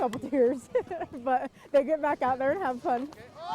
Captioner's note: laughs